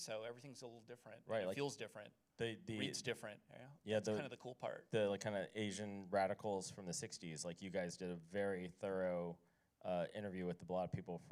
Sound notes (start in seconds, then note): none